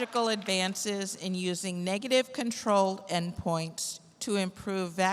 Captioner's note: applause